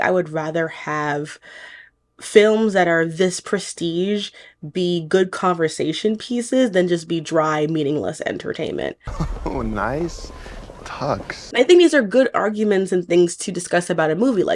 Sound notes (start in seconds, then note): 9.0 laughing